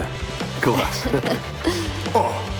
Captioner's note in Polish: śmieją się